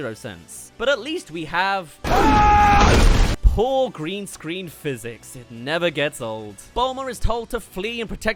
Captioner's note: ahhh!